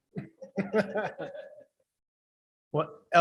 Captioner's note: board laughing